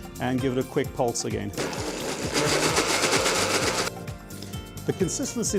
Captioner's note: blender whirring